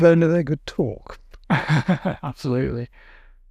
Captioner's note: chuckles